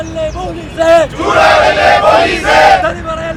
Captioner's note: protesters Sloganeering